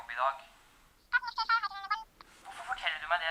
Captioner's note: phone voice